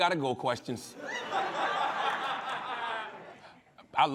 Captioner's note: laughter